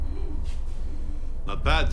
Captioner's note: snarls